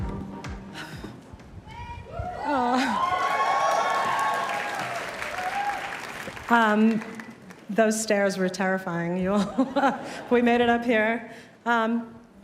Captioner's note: cheers and applause